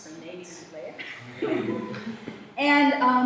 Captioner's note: laughter